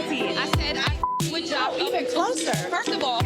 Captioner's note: beep